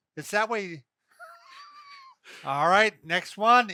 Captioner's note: he laughs